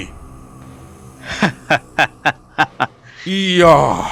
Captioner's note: laughing